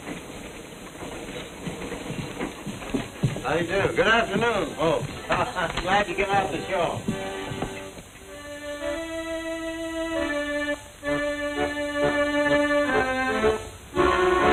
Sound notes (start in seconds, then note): 5.0 laugh